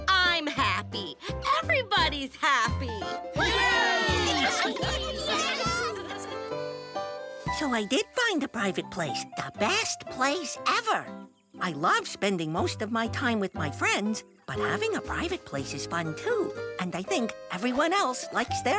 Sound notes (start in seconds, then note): 3.4 cheering